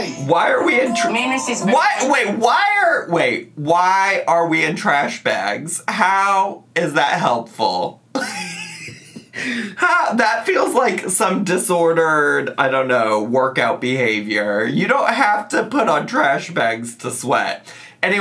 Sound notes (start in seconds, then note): 8.2 laughs